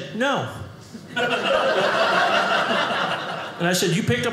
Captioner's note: audience laughing